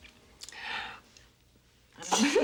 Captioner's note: gasps; both laughing